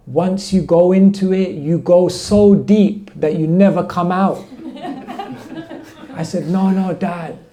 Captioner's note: laughter